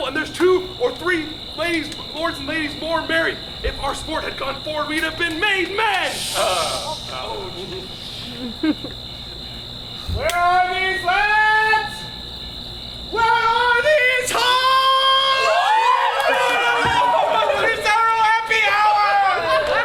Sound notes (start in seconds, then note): 15.7 actors cheering